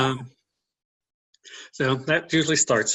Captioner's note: laughs